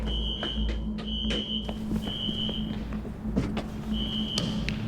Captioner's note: alarm screeching